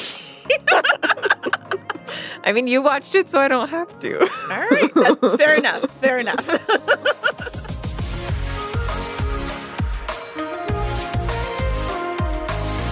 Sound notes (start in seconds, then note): 0.4 both laugh; 7.1 laughs